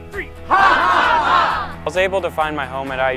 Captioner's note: crowd